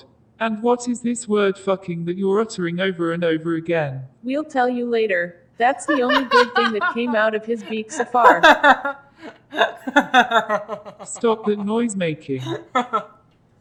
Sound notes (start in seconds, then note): 5.4 Pidgy laughing; 9.7 more laughter